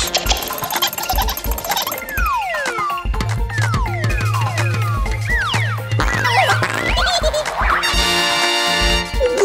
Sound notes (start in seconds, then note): 0.0 Gigglebots laugh; 7.8 tada fanfare